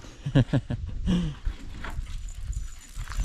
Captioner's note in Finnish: naurua